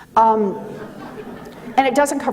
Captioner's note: audience laughing